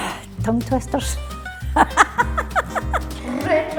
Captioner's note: laughing